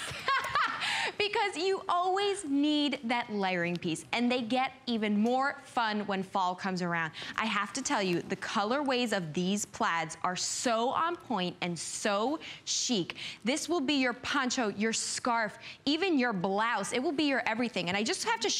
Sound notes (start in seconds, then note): 0.0 laughter